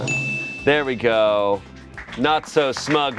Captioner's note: bell dings